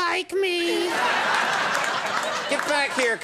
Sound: audience laughing

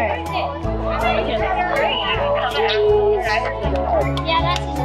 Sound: general chatter

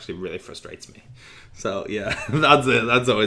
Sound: laughing

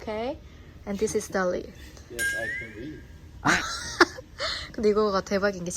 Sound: haha

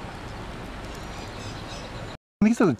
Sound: birds squawking

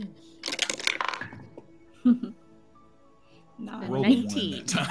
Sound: dice clank

